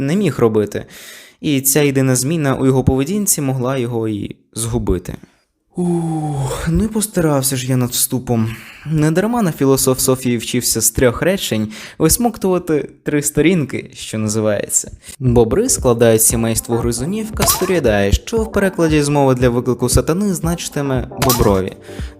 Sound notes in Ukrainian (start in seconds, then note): 5.7 звуки змореної людини